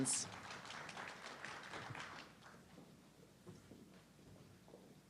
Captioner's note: audience clapping